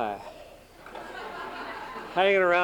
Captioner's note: laughter